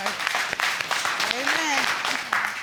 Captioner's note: audience clapping